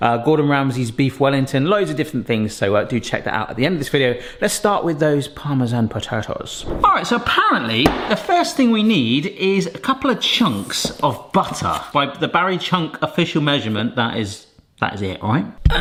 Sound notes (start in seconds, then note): none